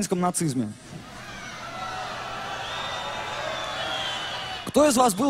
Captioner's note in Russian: возгласы толпы